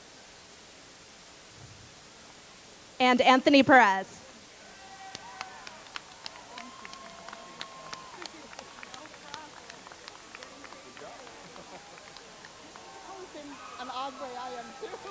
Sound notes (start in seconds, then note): 4.6 cheers and Applause